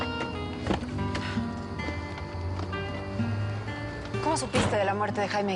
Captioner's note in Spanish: Ruidos al entrar al auto